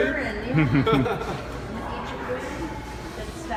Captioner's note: laughs loudly